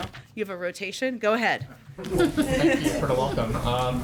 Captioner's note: laughter